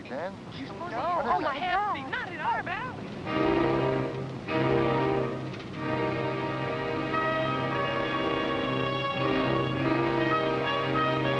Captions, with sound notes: - Is that a guy laying down there? Is he dead? - No, oh my god! (frantic women in background) (foreboding music)